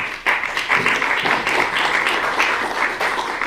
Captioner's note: applause